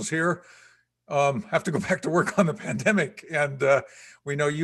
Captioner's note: laughing